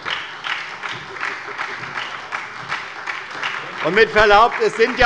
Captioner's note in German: Beifall bei der SPD